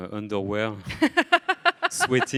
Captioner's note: laughs